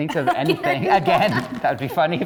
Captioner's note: laughing